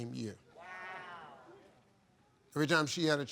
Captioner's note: crowd